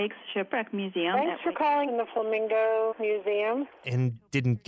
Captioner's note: ANSWERING MACHINE: Thanks for calling the Flamingo Museum